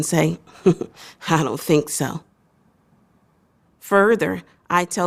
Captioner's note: laughter